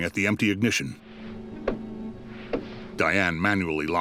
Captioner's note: tapping